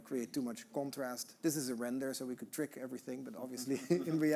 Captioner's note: laughing